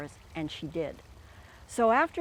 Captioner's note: water flowing